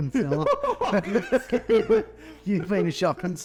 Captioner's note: laughing